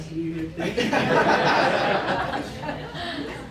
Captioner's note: laughter